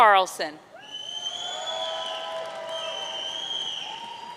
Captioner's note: audience cheering